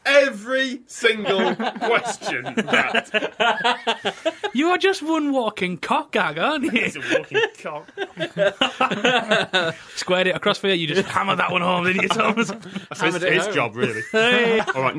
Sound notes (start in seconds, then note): 3.0 laughing; 6.6 laughter